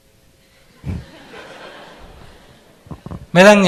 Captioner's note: audience Laughter